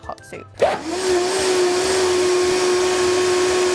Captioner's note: blender whirs